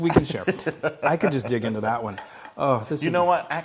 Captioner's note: laugh